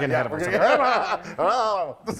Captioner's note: men laughing